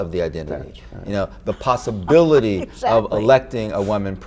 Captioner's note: chuckles